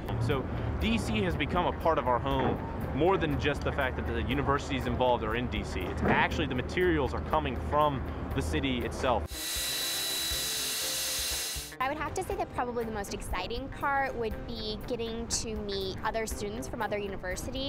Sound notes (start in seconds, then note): 9.2 electric saw